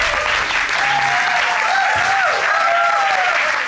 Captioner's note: audience whooping